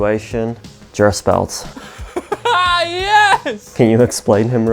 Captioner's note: laughing